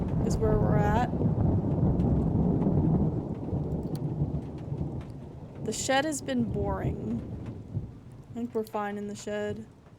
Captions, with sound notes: is where we're at. [Thunder rumbling] The Shed has been boring. I think we're fine in the Shed.